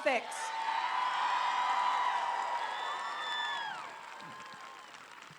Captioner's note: applause